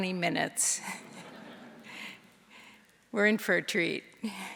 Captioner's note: audience laughing